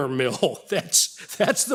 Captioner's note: laughs